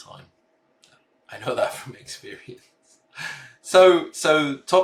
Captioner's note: chuckling